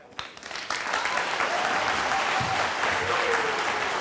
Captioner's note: audience applauding